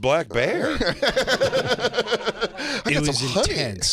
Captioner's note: laughing